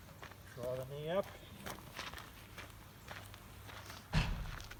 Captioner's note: footsteps plodding